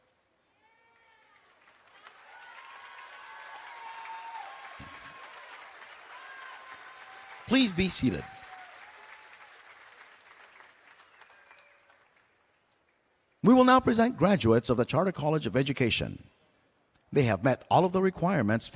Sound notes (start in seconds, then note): 0.2 applause and Cheering; 9.2 applause